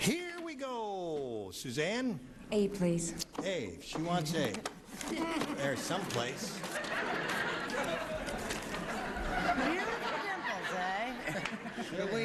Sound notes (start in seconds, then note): 5.2 audience laughing